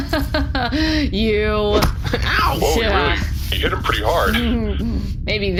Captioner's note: laughs